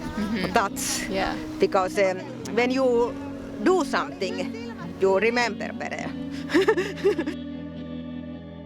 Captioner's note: laughing